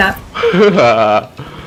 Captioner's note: laugh